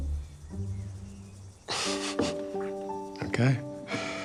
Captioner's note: chuckles